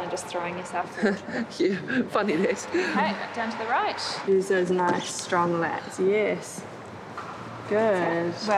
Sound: laughs

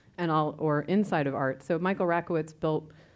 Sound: none

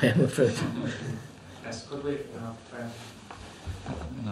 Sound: laughs

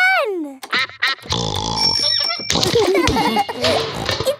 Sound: giggling

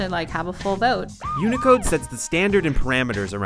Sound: siren blaring

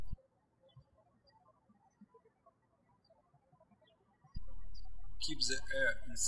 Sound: birds chirping

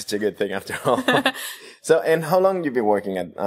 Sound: laughter

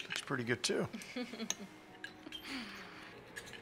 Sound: chuckles

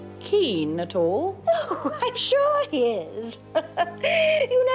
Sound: laughs

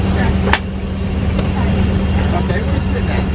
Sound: plane noises drown out

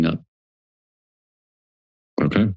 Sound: silence

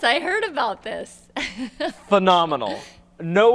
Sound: laughs

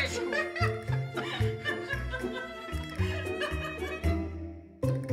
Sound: laughter

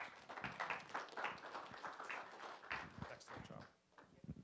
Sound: applause

